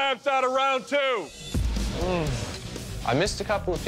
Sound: sighs

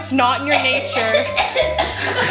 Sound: rude noises as directed; laughter

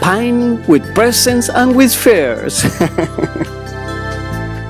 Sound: laughs

